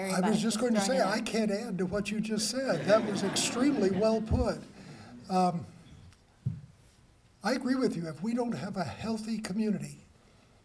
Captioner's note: laughter